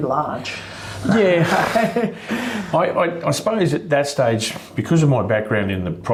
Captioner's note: chuckles